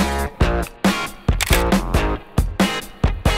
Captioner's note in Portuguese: som de flash